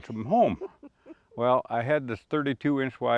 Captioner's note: chuckles